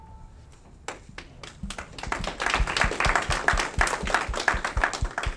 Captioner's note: audience clapping